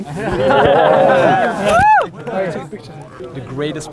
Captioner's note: group cheering